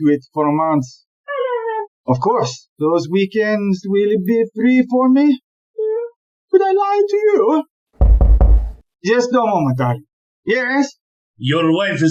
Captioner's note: knocking on the door